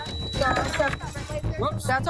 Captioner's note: tense music; drink crashes